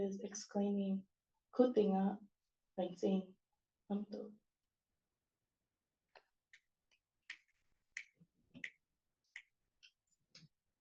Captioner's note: non-english